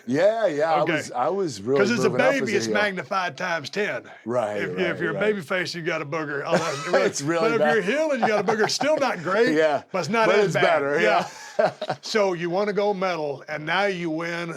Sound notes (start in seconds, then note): 6.4 laugh